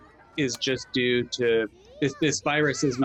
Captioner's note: children chattering